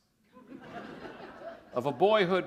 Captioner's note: laughter